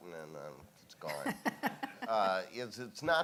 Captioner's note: laughing